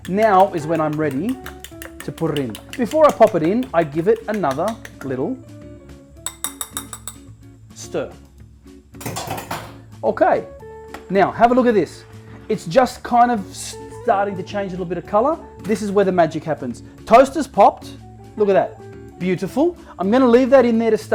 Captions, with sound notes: Now is when I'm ready to put it in. Before I pop it in, I give it another little (tapping fork) stir. (fork clanging) Okay. Now have a look at this. It's just kind of starting to change a little bit of color. This is where the magic happens. Toast is popped. Look at that. Beautiful. I'm going to leave that in there